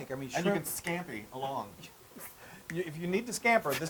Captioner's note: laugh